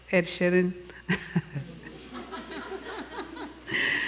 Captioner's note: laughing